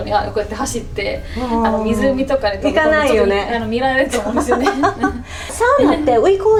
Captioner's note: laughs